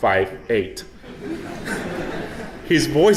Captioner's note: audience laughing